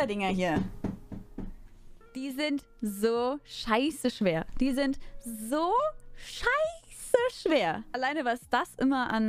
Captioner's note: knock, knock